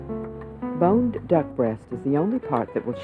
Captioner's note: voiceover